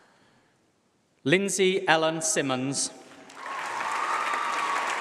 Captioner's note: applause